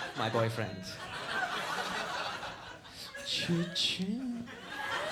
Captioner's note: audience laughs